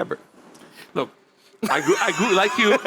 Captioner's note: laughs